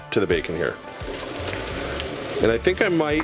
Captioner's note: sizzling